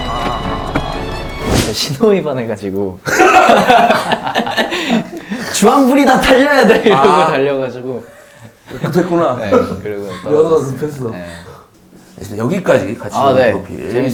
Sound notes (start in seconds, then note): 3.1 laughing